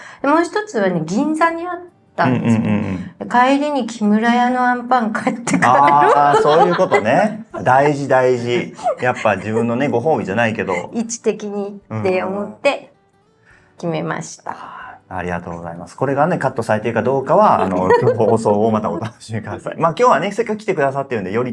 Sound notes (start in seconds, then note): 5.5 laughs